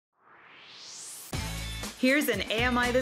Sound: swoosh

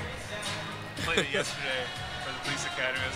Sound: laughing

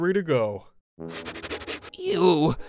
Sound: wolf sniffing

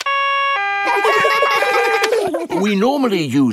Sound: siren stops; siren wailing; kids laugh

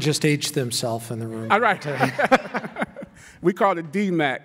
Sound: laughing

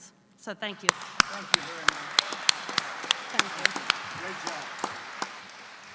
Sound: applause

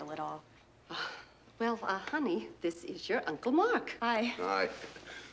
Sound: sighs

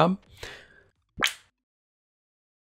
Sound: wet clap

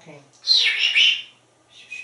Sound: whisper Sounds; makes Whisper Sounds

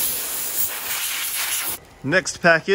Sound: hissing sounds

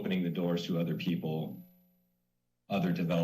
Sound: pause

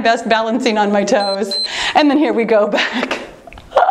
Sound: timer beeps

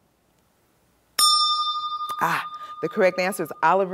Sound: bell rings, time expires

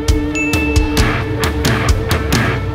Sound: ding

